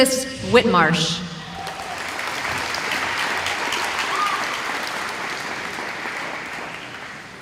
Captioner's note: applause